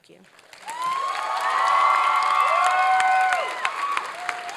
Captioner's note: applause and cheering